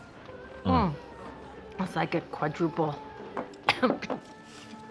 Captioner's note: coughs